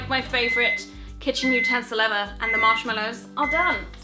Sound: microwave beeps

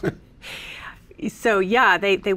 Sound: laughs

